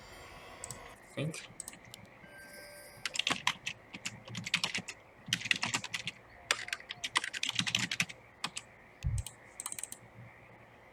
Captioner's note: typing sounds